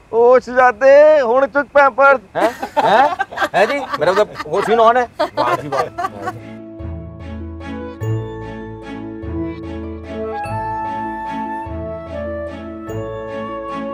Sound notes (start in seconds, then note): 1.1 mumbles in punjabi; 2.3 laughs